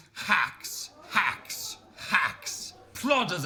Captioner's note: audience gasping